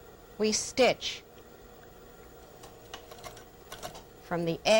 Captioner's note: sewing machine